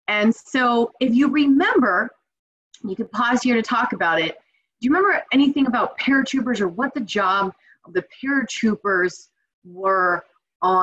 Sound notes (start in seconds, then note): none